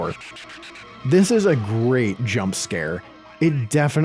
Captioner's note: shrew chatters